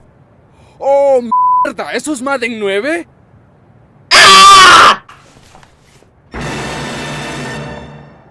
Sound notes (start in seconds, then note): 4.1 screams in virgin